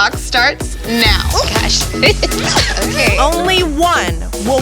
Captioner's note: chatter, giggling